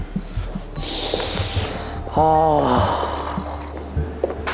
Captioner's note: sigh